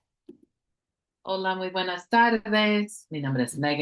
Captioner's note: speaking spanish